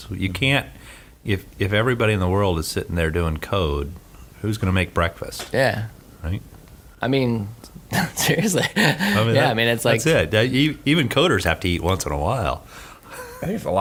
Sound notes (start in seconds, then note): 7.9 he laughs